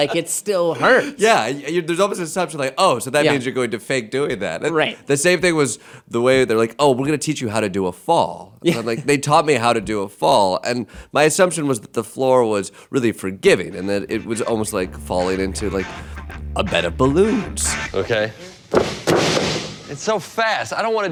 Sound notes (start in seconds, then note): 0.0 laughing; 17.4 funky music; 18.7 mat crashing